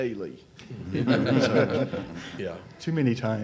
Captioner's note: audience and panelists laugh